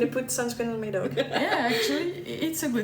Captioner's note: laughs